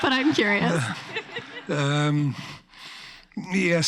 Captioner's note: laughs